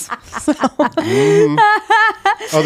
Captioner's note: laughing